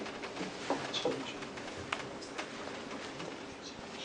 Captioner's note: audience murmurs